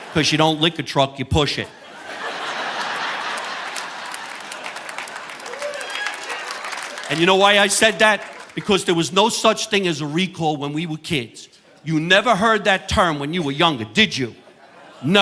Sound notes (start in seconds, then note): 1.6 audience laughing; 2.1 audience applauding